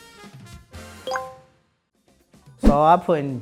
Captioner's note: score chimes